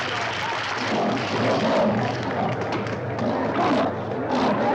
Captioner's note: lions snarling